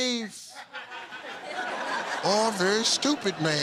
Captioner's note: laughter